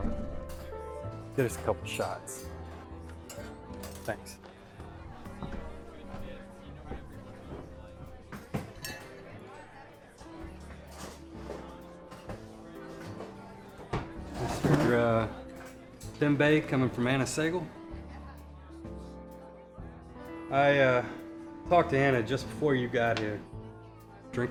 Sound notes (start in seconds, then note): 5.7 bar patrons chattering